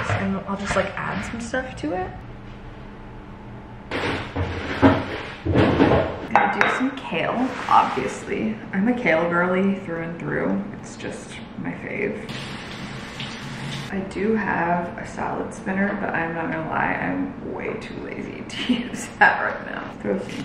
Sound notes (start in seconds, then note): 4.2 drawers clicking; 12.6 water sloshing